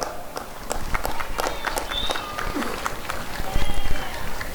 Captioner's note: applause and cheering